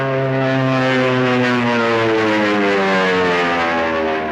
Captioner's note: airplanes buzzing